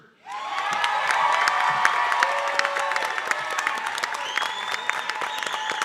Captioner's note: audience cheering and applauding